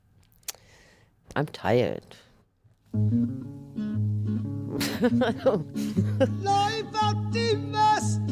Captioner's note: laughs